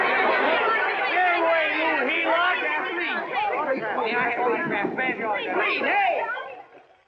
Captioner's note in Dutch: geklets; geklets